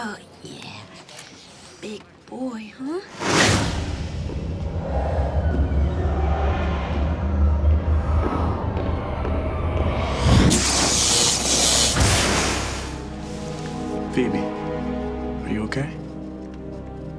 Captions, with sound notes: Oh yeah. Big boy, huh? [whoosh] [zap] Phoebe, are you OK?